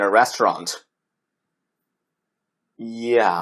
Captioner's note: awkward silence